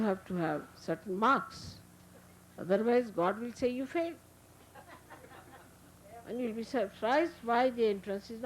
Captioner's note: laughter